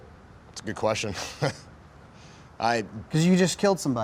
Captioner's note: chuckles